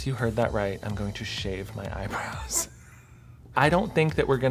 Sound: laughs

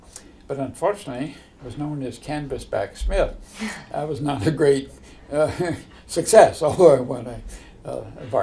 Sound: chuckle

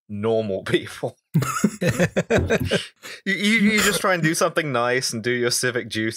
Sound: laughter

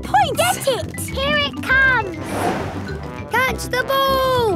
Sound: whoosh

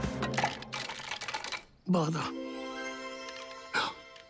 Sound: gasps

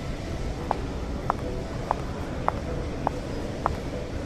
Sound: shoes clacking

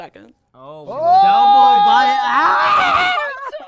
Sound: hollering

